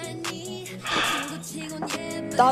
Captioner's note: sigh